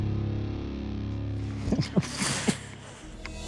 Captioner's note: chuckles